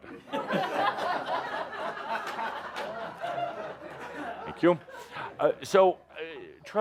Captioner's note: laughter as he poses